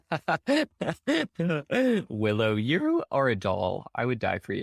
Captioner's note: laughing